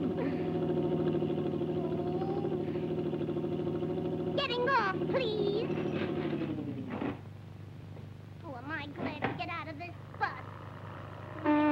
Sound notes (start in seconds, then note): 1.7 Betty growls; 11.4 horn honks